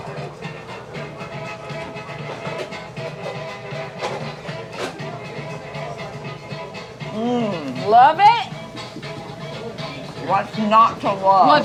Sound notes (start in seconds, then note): 0.2 fiddle music; 2.4 patrons chattering